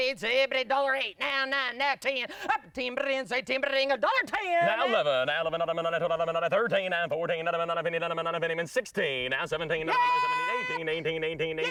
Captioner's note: rapid Auctioneer chant